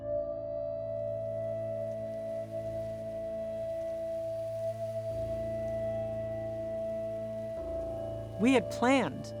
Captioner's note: dust crackling